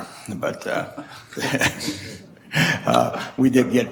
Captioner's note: chuckles